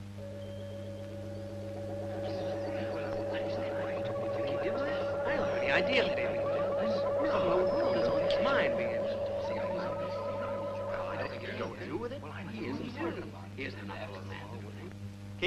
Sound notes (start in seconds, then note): 0.4 eerie ambient music; 2.5 people murmuring